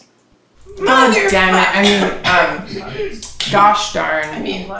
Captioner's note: coughs